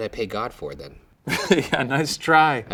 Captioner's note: laughs